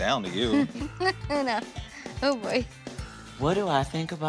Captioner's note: laughs